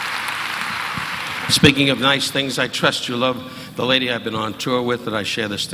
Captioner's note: audience applauding